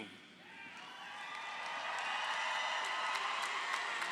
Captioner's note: audience cheering